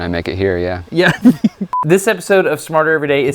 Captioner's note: laughs